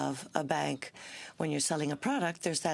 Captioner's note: speaking French